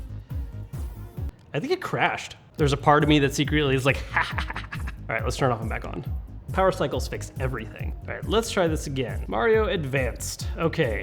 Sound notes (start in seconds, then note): 3.9 laughs